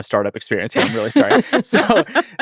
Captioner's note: laughing